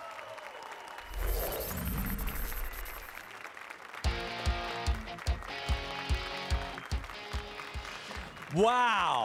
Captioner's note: applause and cheers